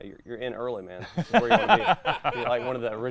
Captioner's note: laughing